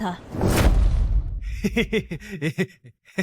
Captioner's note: laughs